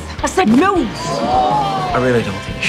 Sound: group gasping

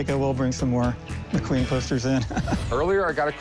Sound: laughs

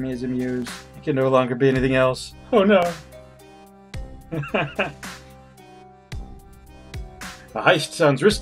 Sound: laughs

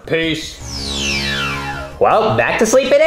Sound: dramatic buzzing

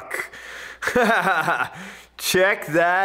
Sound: instructor laughs

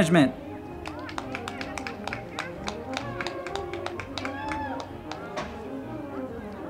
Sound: crowd clapping and cheering; band music

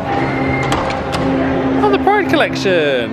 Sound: mesmerising music; objects clacking

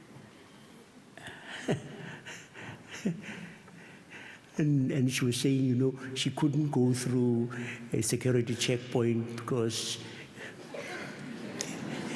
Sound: laughs

